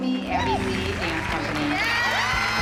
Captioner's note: cheering